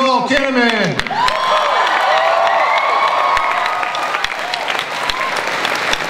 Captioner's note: audience cheering and applause